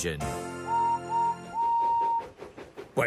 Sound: whistle sounds

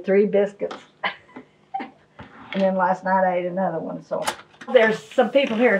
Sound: chuckles

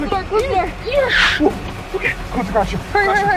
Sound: tires screech

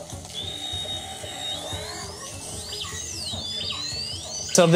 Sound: dolphins whistling

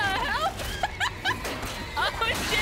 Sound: laughter

